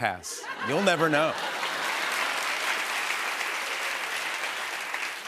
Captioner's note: laughter and applause